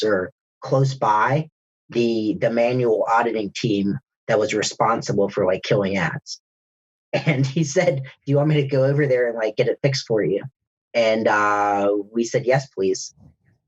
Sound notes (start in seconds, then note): 6.9 laughs